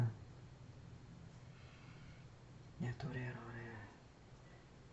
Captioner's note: speaking in foreign language